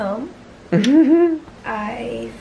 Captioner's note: chuckles